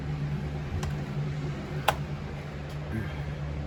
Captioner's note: door unlocks and opens